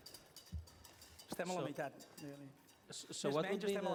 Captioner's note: non-english speech